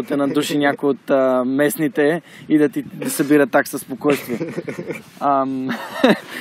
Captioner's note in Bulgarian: се засмива